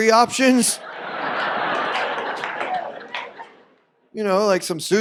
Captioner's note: audience laughs